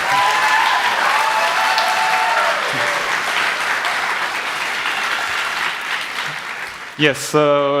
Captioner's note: applause